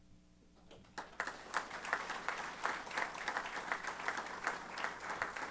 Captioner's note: applause